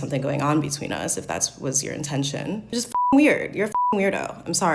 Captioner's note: beep